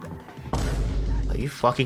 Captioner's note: Vine Boom SFX